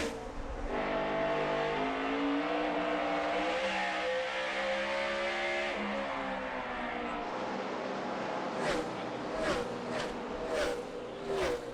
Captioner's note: engines roar